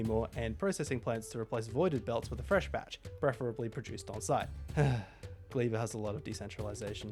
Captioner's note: sigh